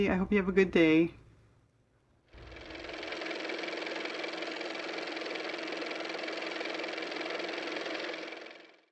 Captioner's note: car motor